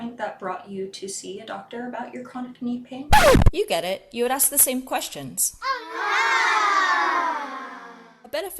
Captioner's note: record scratch; ooooh sound effect